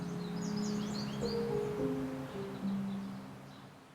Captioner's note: birds chirping